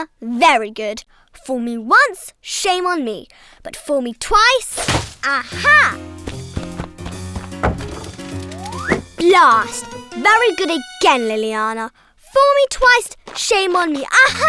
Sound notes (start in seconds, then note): 4.6 bushes rustling; 6.3 knocking